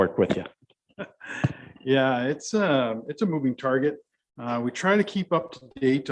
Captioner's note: chuckles